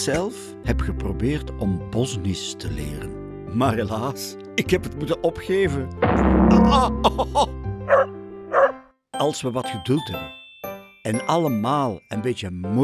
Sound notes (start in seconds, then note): 6.1 boing!